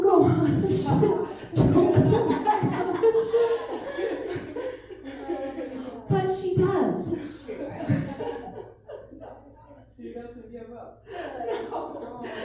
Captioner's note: laughter